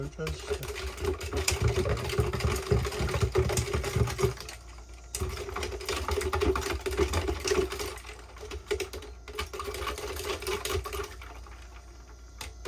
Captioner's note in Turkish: Karıştırma sesi